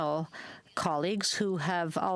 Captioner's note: speaking French